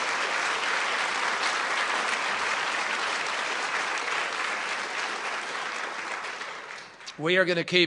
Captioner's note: applause